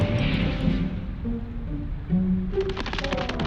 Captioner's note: volcano bubbling; feet pattering